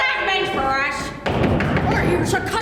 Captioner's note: knocking